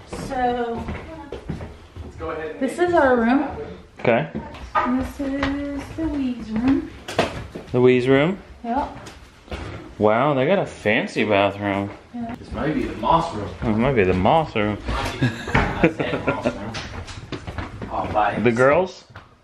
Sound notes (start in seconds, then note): 15.0 laughing